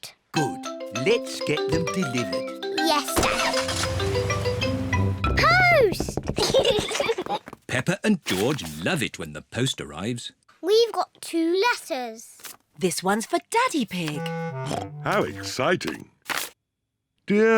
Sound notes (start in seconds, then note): 6.3 both giggle; 14.1 snorts